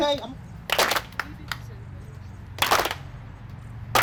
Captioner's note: clapping